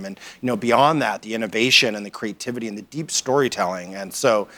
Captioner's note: none